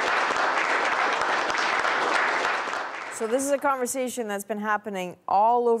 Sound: applause

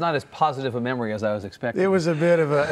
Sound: laughing

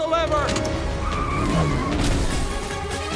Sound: tires squealing; glass shattering

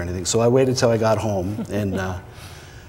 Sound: chuckling

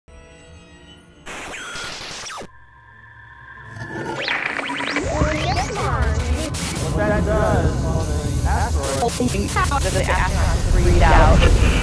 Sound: sound Effects

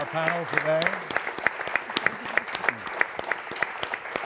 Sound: audience clapping

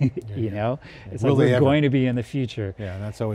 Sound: laughs

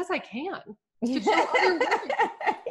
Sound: laughs

